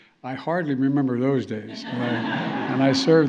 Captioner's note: laughter